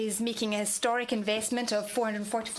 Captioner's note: speaking French